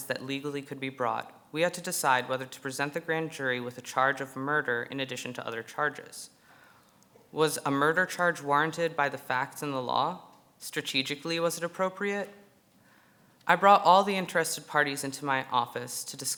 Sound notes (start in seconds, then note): none